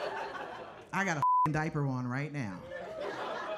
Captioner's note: beeping; audience laughing